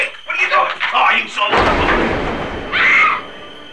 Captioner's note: boom; scream